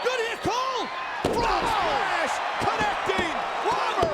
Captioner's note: spectators cheering